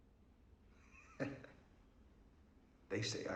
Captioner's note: chuckles